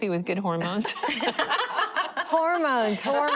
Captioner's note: laughter